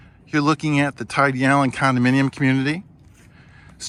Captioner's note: none